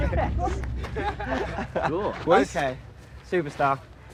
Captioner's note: laughing